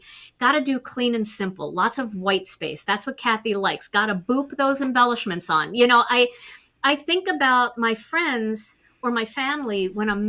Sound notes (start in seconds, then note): none